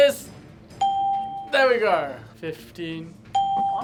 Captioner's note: bell rings; bell rings